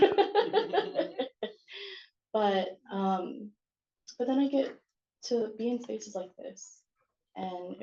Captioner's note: laughing